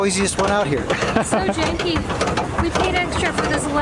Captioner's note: laughter